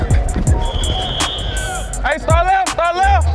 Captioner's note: whistle